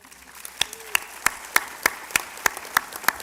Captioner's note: applause